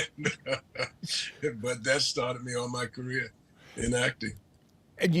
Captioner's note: laughing